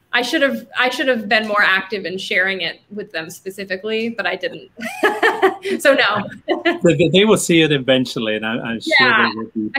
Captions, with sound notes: I should have been more active in sharing it with them, specifically, but I didn't. (laughing) So, no. - They will see it, eventually and I'm sure they will be pleased.